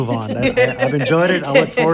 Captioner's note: panelists laughing